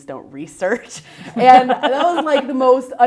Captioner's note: chuckles